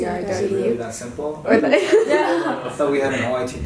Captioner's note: laughs